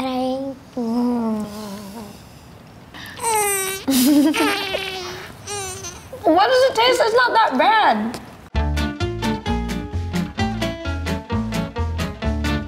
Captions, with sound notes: - But I... Mmmm.... (groaning) (giggling) - What is it taste, it's not that bad! (upbeat instrumental music)